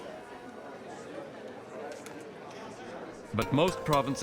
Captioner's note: people chatter indistinctly